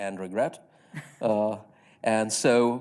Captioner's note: chuckling